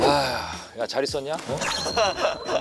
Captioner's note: sigh